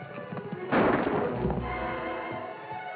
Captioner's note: gunshot